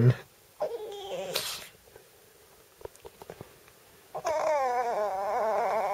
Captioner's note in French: Bruits de chien ridicules